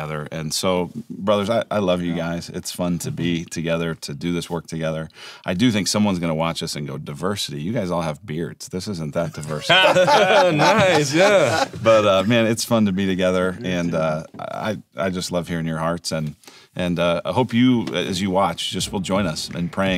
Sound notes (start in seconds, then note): 9.4 laughing